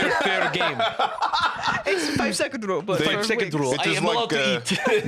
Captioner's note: laughs